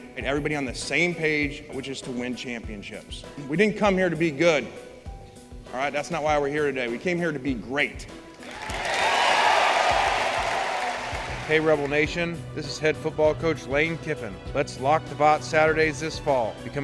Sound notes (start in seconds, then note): 8.4 applause